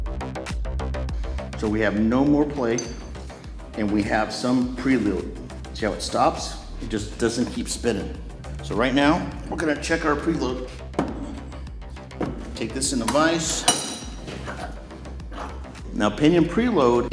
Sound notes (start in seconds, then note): 10.6 metal brushing metal